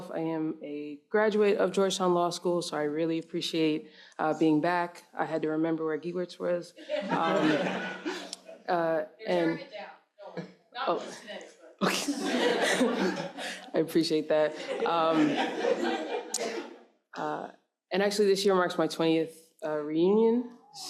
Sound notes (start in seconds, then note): 6.8 audience laughs; 11.4 speaks faintly; 11.8 audience laughs